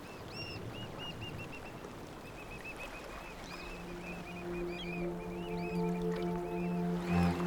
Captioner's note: birds calling